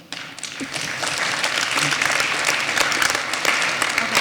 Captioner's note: applause